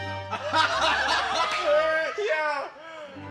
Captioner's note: laughter; indistinct chatter